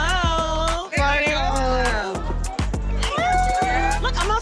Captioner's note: people exclaiming